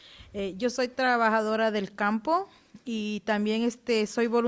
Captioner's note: speaking Spanish